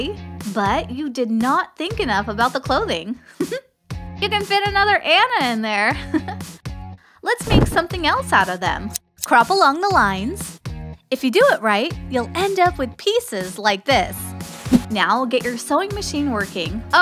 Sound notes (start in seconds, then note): 3.2 laughter; 6.4 chuckle